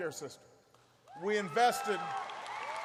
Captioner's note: applause